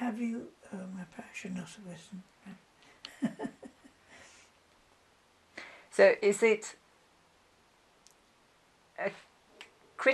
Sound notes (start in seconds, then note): 3.1 laughs